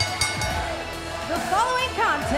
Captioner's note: bell ringing